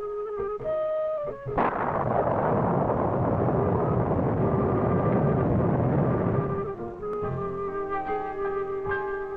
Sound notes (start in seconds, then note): 1.5 thundercrack